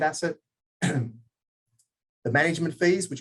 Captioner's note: clears throat